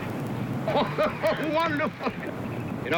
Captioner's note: laughing